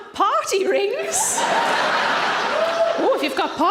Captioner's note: audience laughing